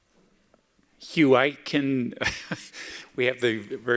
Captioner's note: chuckles